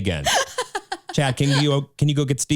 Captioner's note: laughing